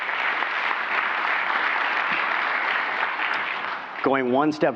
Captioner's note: applause